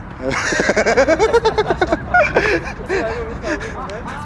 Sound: laughing

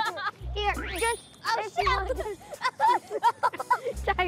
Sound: laughing

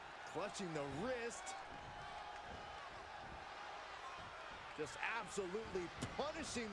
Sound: applause

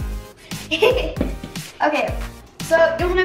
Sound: laughs

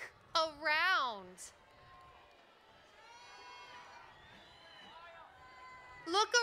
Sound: cheering

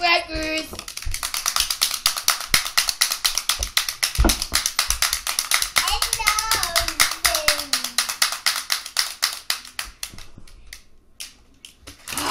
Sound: clapping sounds

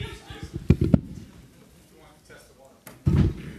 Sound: voiceover

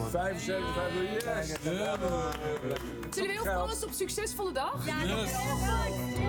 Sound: cheering

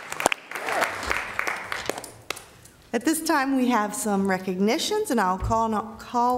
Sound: applause

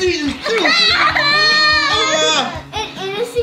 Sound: laughing

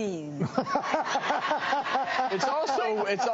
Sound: laughing

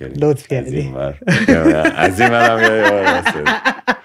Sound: laughter

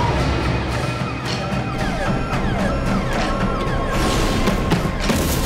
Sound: sirens blaring

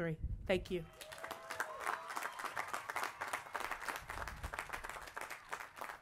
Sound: applause

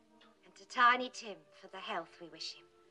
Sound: none

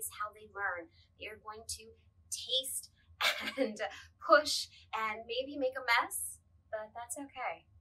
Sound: laughs

